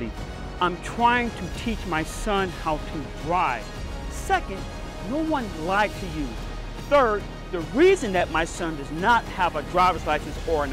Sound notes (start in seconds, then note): none